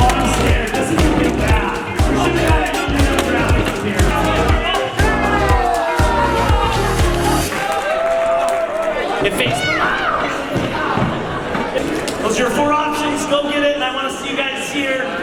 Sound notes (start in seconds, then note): 5.7 cheering; 10.3 screams